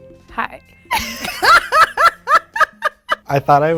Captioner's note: laughing